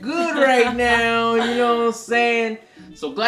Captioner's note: laughs